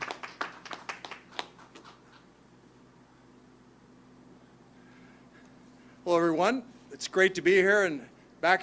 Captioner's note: applause